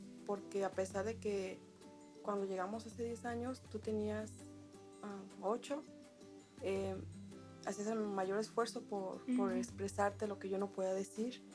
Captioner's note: speaking world language